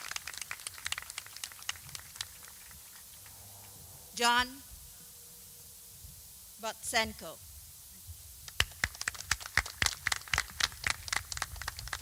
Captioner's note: applause